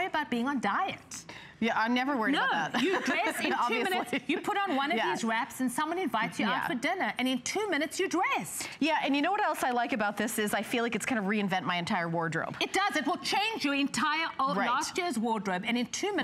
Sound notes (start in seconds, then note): 2.7 laughter